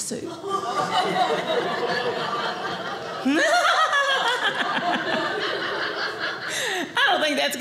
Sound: audience laughing

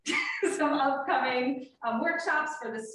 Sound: laughs

